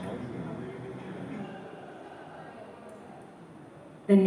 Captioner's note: chatter